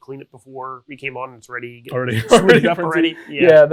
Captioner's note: laughs